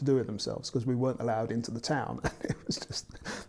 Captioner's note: laughs